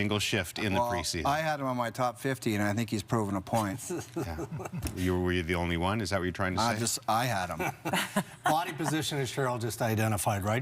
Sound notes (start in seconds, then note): 7.5 laughter